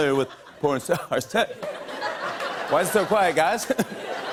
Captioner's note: laughter